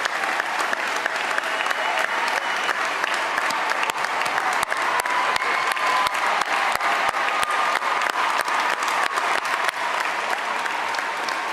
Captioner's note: cheers and applause